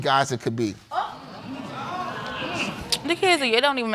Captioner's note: audience exclaims